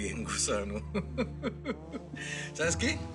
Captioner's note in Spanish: Risas